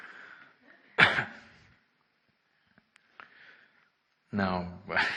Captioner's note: laughter